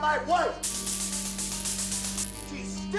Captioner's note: zapping sound